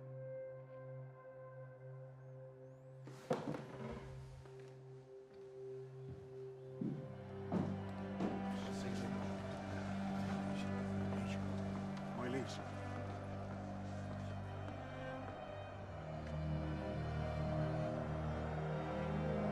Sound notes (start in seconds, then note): 3.0 wood creaking; 7.4 footsteps thumping; 8.6 distant crowd shouting; 9.9 crowd speaking in foreign language